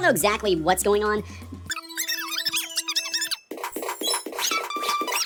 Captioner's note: squeaky gibberish; dramatic drum roll